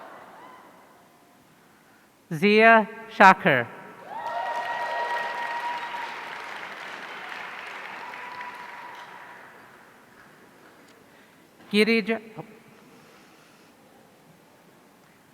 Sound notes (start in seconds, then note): 4.0 audience cheering